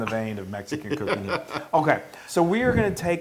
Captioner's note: laugh